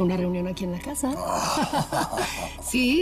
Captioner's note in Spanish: Risas